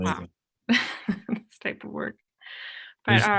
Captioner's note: chuckles